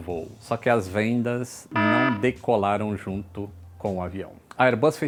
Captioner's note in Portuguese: alarme ao fundo